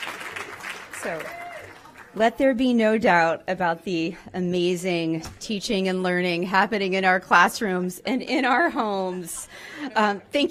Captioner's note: applause